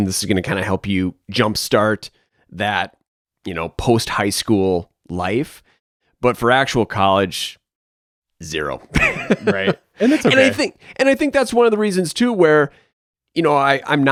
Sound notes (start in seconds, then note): 8.9 laughs